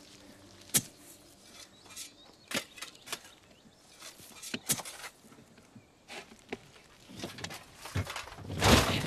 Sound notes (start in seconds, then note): 0.6 shovel digging